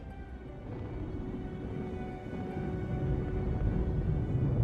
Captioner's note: supernova rumbling